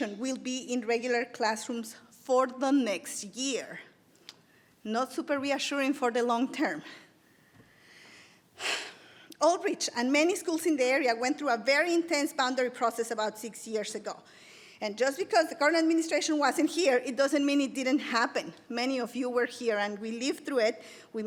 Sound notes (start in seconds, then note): 7.3 exhales